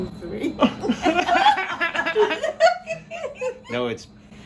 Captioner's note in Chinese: 笑聲